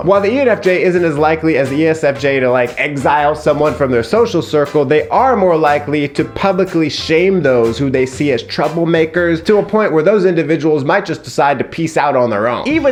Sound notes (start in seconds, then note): none